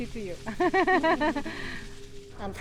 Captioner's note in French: Des rires